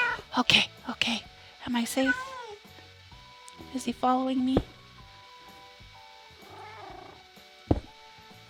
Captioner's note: zombie growls